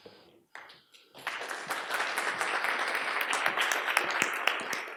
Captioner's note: audience applauds